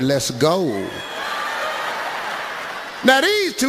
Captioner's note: audience laughs